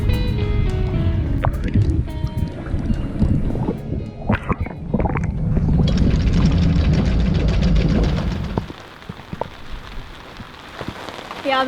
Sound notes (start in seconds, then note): 6.1 motor roars; 9.0 raindrops trickle